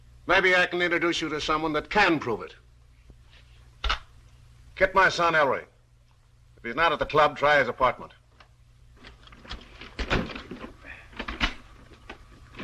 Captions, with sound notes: Maybe I can introduce you to someone that can prove it. [INTERCOM CLICKS] Get my son, Ellery. If he's not at the club, try his apartment.